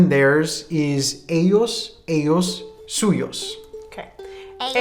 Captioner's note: speaking in a foreign language